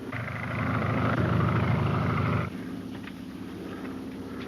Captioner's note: plane engine roars